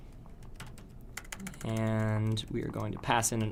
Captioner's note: typing Noises